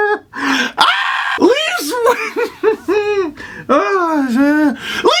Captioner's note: laugh-screams in game-induced hysteria; laughs more